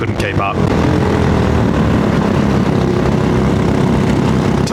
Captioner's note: engine noise